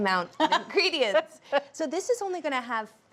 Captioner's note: laughing